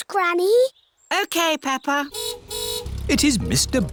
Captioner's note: car horn honks